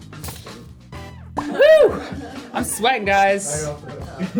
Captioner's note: popping sound